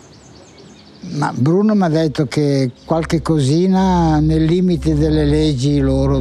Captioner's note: speaking in foreign language